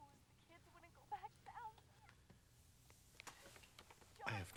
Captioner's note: woman on telephone fussing